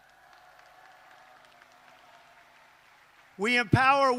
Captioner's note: applause